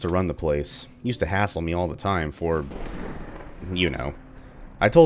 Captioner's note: thunder